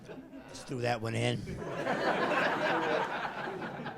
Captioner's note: laughing